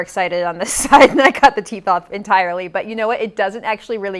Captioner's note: laughs